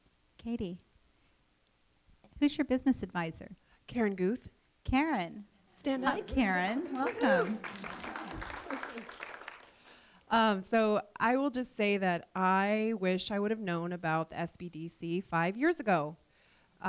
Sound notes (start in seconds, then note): 9.2 applause